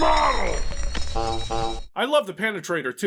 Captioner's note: honk honk in slow-mo